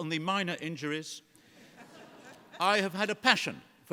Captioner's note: laughter